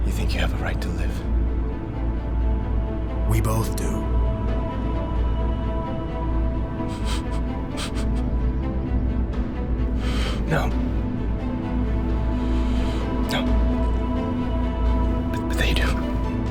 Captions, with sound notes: - You think you have a right to live? (pensive music) - We both do. (Noah chuckling) - No, no. But they do.